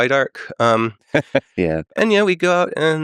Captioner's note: Lex laughing